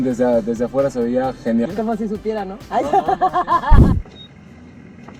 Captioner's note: laughs